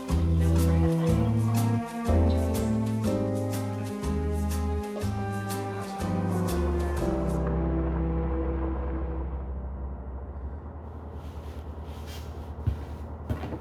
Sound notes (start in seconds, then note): 7.2 vehicle approaching; 10.3 music stops